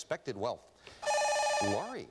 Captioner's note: buzzer